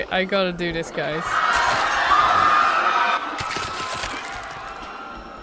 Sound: screaming

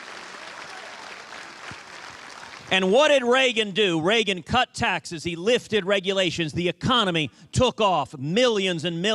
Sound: cheers and applause

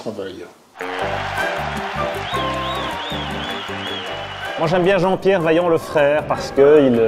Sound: applause

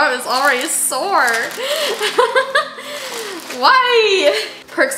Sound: laughs

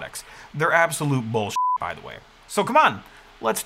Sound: beep

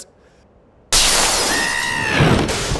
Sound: glass shatters; armin screams

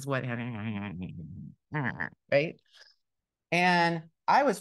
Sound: mumbles

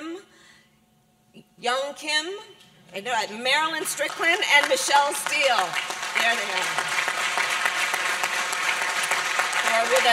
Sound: applause

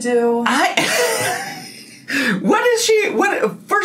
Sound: laughs

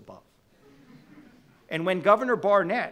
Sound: audience laughing

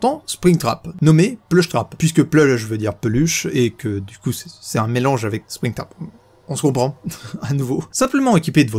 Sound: in french; giggles

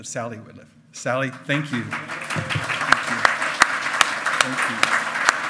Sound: loud clapping

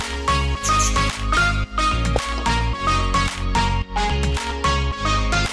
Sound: mimics shotgun reloading

